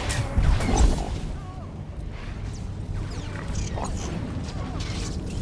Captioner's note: explosion